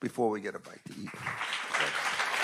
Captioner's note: attendees applauding